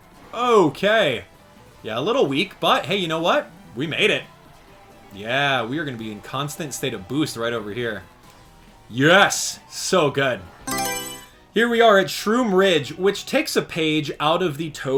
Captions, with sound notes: Okay, yeah. a little weak but hey, you know what we made it. Yeah we're gonna be in constant state of boost right over here. Yes, so good. [Mario Selection Sound] Here we are at Shroom Ridge, which takes a page out of the